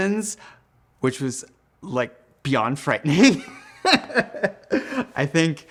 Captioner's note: laughing